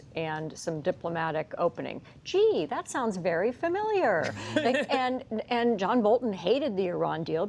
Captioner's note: laughter